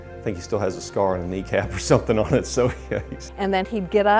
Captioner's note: laughs